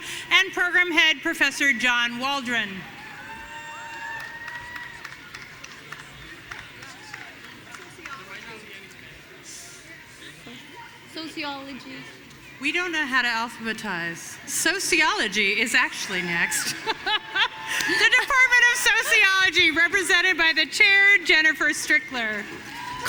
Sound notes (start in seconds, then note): 16.0 laughs